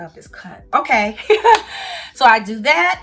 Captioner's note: chuckles